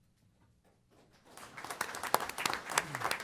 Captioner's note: applause